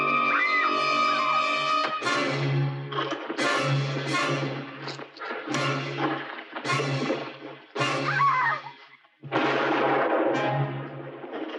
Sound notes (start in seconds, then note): 0.0 Kane screaming; 0.0 suspenseful orchestral music; 7.9 Kane screaming; 9.2 gun firing